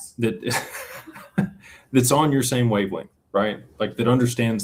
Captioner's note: laughter